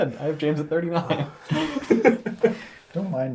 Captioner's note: all laugh